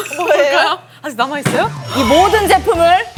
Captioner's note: bang!